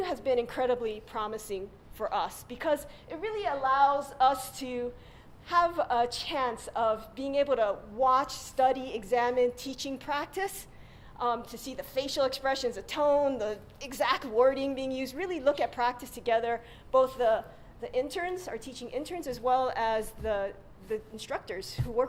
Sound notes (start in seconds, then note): none